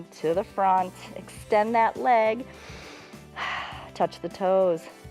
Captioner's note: inhales and exhales